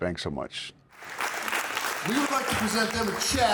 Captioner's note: audience clapping